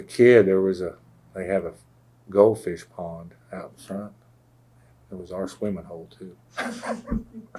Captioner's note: laughter